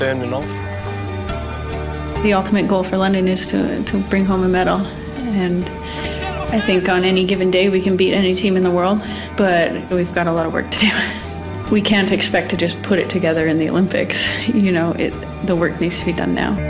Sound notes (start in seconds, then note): 5.8 laughs